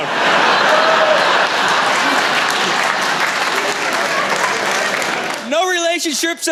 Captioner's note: laughter